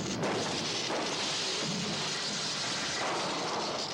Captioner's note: wires crackling